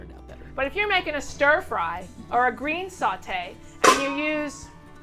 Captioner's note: crashing noise